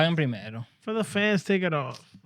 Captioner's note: speaking In Foreign Language